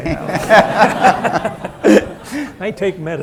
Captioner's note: laughter